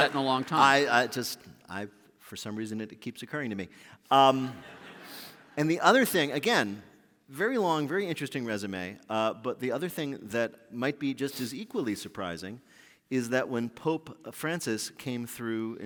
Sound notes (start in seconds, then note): 4.4 laughter